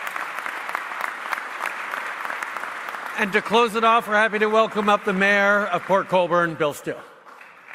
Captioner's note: applause